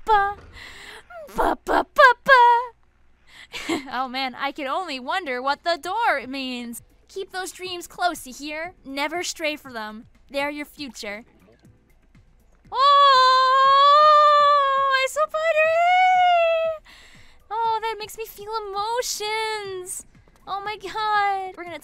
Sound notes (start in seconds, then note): 3.5 laughs; 12.7 yells excitedly